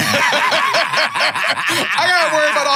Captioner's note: laughs